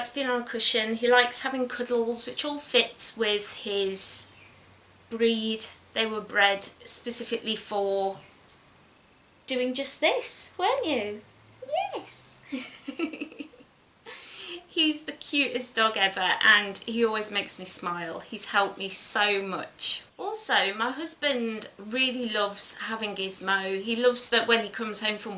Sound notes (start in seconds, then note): 12.4 giggles